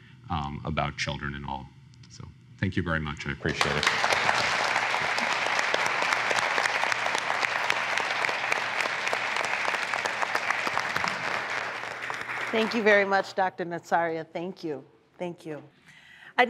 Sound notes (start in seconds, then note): 4.2 applause